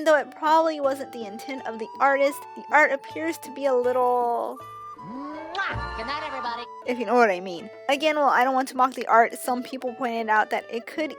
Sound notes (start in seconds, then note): 5.0 blows kiss